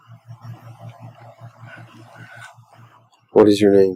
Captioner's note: eerie voice